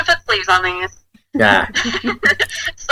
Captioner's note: laughs